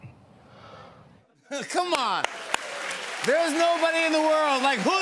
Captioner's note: cheers and applause